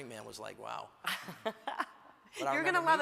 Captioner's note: Hillary laughs